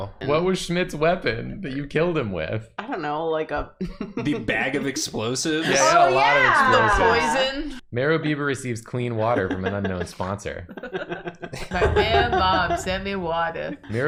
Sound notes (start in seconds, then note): 3.8 giggles